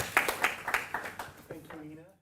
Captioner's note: applause